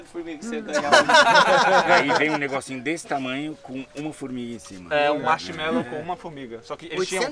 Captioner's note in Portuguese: risos